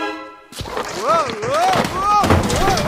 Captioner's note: marbles clatter; father shouts